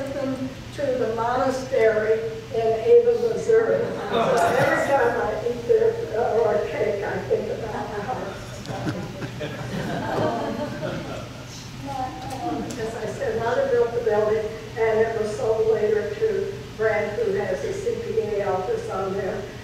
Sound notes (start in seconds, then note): 3.9 audience laughs; 8.4 laughs; 10.2 audience laughs